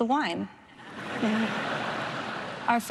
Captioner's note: laughter